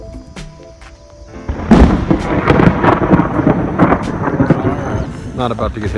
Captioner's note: thunder Clap